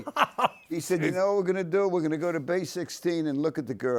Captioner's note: Tony laughs